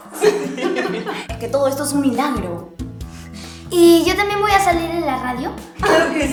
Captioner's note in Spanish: risas; resoplido